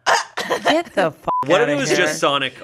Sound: beep

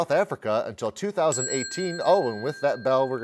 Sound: bell chimes

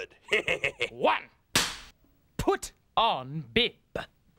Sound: cracks pointer

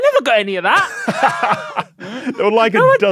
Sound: laughs

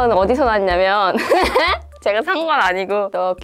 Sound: giggles

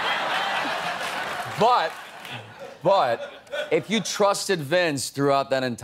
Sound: laughter

